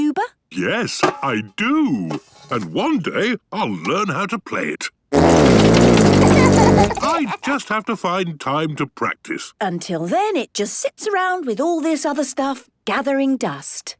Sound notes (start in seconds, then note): 6.2 laughter